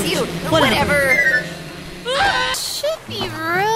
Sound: yells

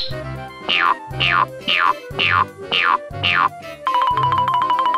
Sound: boing sounds

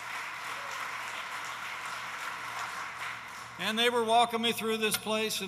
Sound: applause

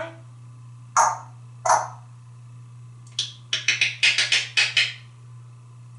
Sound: clicks and clucking sound

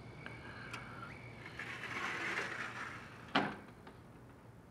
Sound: doors closing

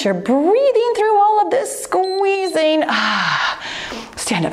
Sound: timer beeps

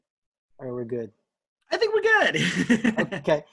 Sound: laughter

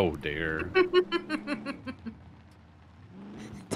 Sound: laughs

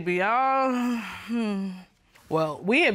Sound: sighs

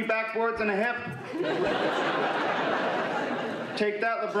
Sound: laughter

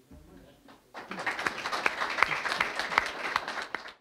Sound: applause

